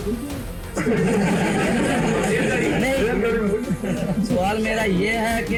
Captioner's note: audience laughs